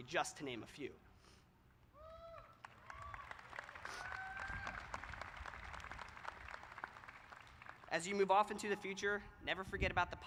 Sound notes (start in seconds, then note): 2.2 applause